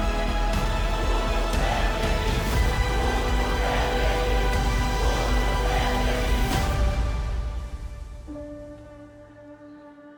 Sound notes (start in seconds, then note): 0.0 people chanting; 6.5 music fades; 8.3 mysterious music plays